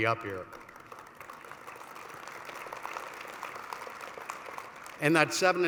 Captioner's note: applause